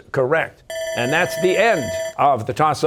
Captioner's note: bell ringing